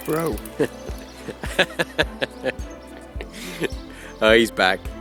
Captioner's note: laughing